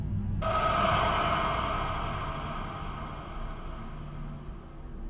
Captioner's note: ominous gasping